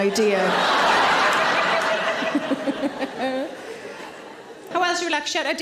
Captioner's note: audience laughing; Sarah laughs